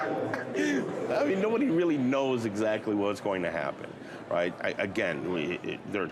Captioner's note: laughing